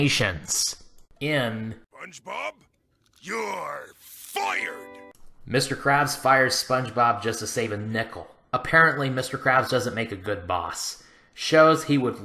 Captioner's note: Mr. Krabs' voice